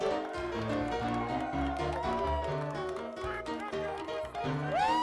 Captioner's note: crowd cheers